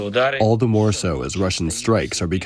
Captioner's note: through translator